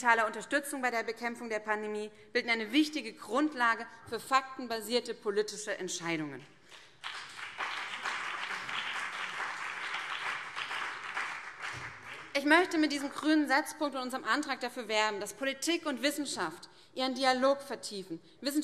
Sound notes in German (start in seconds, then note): 6.6 Beifall BÜNDNIS 90/DIE GRÜNEN und vereinzelt CDU